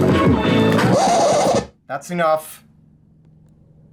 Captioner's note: record scratch